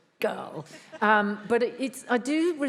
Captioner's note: laughs